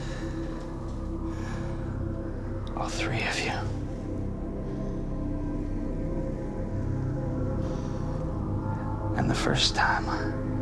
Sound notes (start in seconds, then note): none